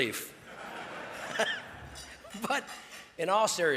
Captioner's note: audience laughs